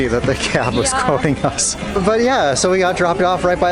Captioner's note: laughs